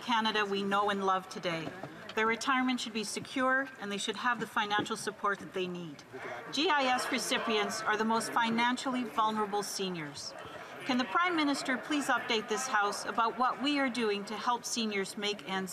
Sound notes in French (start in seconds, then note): 2.4 voix de l'interprète